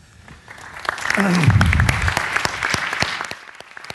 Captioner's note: applause